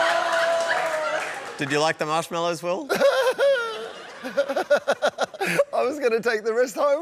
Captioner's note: laughs